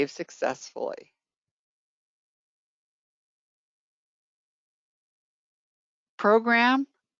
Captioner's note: 5 seconds pause